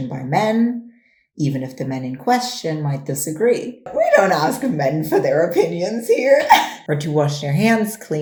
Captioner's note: laughs